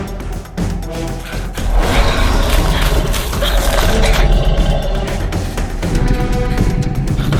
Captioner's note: humans panting; creature growling